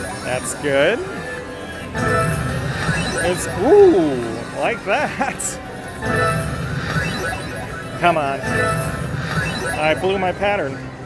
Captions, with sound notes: That's good. That's - ooh! I like that (laughing). Come on! I blew my pattern.